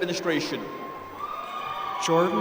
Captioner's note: applause